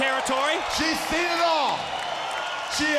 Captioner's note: crowd cheering